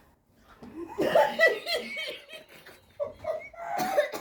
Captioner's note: audience laughs